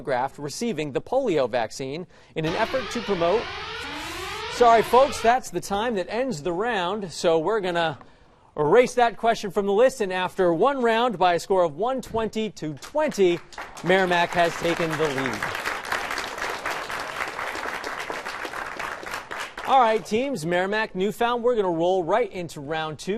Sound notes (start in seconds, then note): 2.4 alarm clanging; 15.3 applause